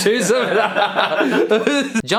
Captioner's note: laughing